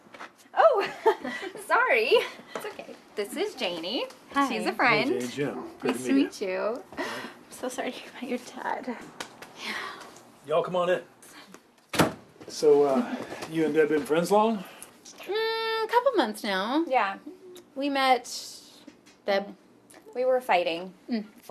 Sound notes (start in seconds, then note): 0.8 chuckles; 9.6 Deb sighs